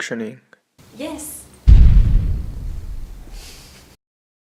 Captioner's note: explosion